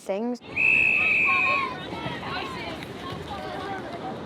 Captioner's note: whistle blows, cheering